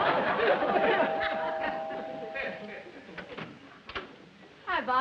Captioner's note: doorbell rings